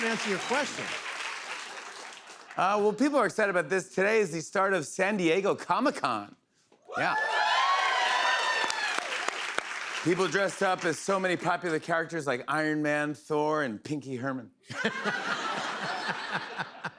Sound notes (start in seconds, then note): 6.9 cheers and applause; 14.7 laughter